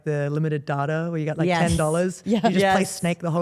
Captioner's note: laughs